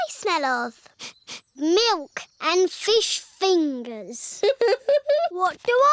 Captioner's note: sniffs; chuckles